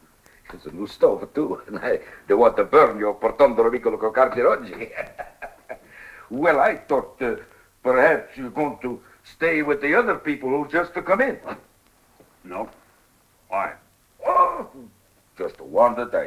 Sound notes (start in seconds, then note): 3.2 spanish; 4.3 laughs